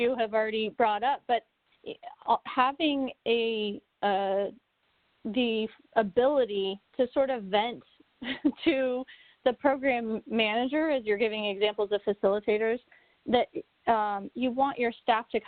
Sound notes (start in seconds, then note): 8.2 chuckles